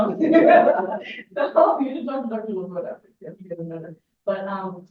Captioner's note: everyone laughs